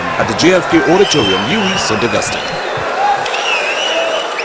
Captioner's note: wild applause and cheering for 22 seconds